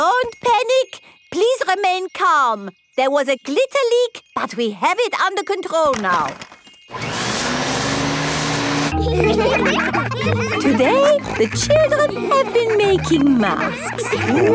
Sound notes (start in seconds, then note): 6.9 whirring; 8.9 all laughing